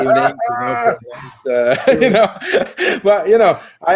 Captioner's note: all laugh